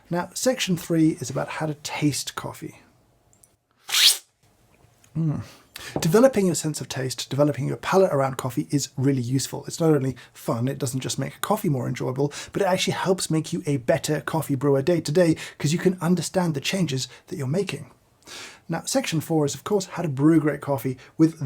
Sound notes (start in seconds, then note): 3.9 slurps coffee